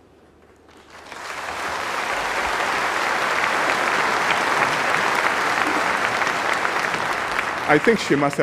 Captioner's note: applause